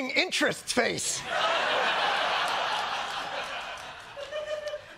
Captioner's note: laughter